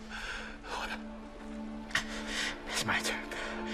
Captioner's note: breathes shakily